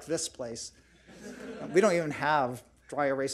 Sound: audience laughs

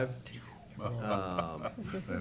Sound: laughter

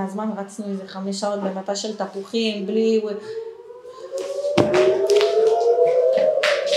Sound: sounds of "red color" alarms are heard

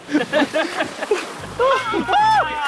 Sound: Sidemen laughing; waves crashing; Sidemen screaming and laughing

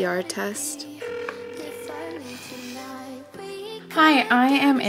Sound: phone rings

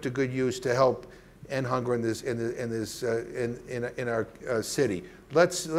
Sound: stammering

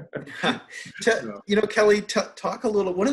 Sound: laughs

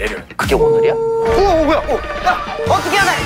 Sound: siren

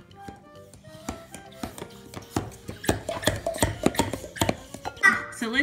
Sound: sound of pump going up and down

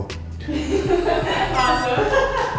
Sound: laughing

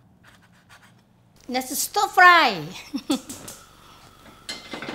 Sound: laughs

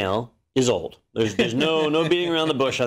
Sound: laugh

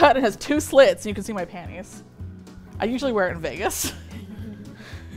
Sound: laughs

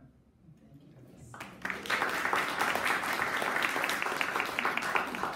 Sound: audience applauding

